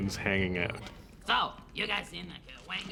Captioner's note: speaking in alien language